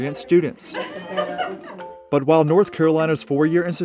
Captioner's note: students laugh